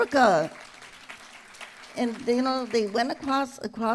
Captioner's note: applause